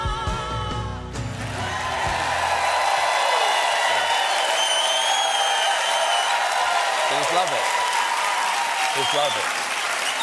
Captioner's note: cheers and applause